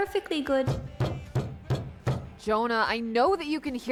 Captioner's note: pounding